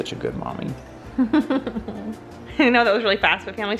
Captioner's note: laughing